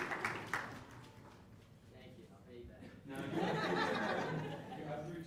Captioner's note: cheers and applause; laughter